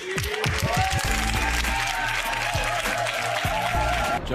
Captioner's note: audience cheering; upbeat music